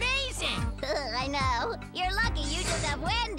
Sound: chuckling

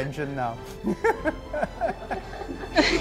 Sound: laughter

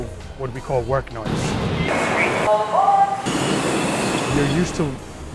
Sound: subway ambient noise

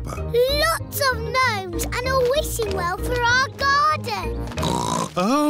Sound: oinks

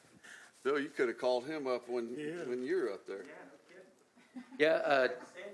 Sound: laughter

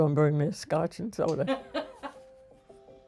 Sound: laughs

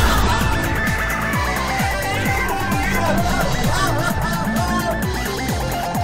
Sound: Ursula Andromeda yelling

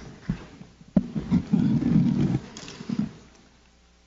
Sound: microphone rustling

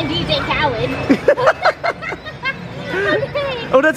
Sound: both laughing

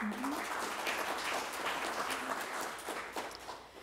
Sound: applause

